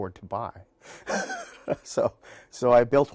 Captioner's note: laughs